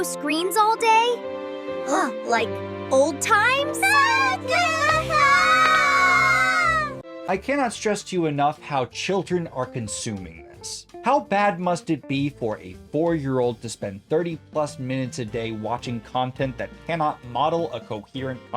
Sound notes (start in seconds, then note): 3.6 screaming almost happily